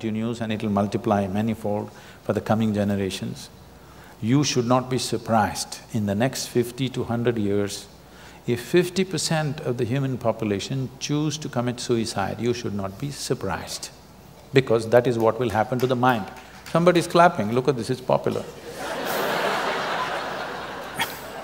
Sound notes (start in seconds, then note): 15.1 few audience clap; 18.6 laughter